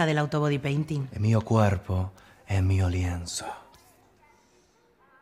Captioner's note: italian accent